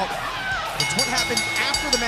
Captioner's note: bell ringing